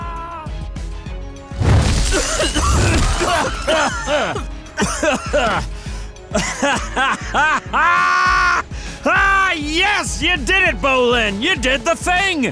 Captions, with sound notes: [coughing] [laughing] Yes, you did it, Bolin! You did the thing!